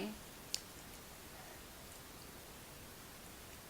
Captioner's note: over-exaggerates words GRUESOMELY